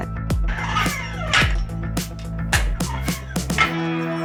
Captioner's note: metal sliding